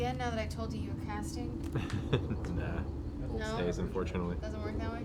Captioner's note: laughs